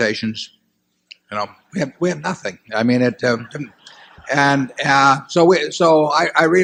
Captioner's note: laughter